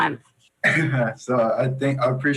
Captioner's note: chuckles